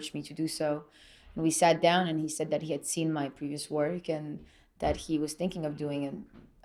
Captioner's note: none